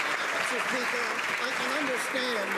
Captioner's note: some Applause